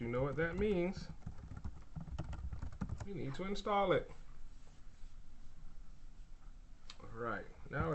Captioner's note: typing sounds